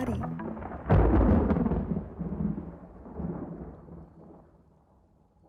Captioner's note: soundbite of thunder cracking